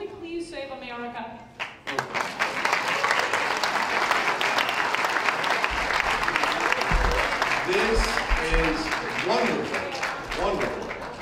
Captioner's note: applause